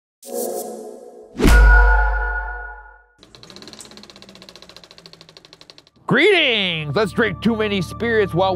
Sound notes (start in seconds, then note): 0.4 an erratic screech coming from the cockpit; 3.2 film camera whirring